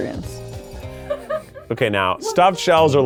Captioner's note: person laughing